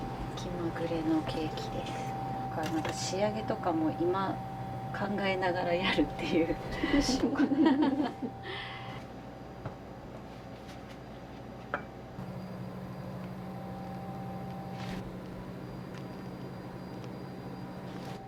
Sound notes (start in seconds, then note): 6.9 laughter